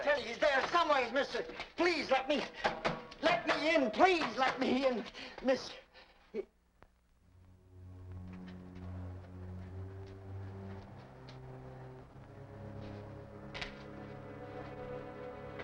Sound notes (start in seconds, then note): 4.2 hands smacking; 7.3 suspenseful music